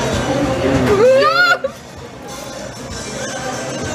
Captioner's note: shrieking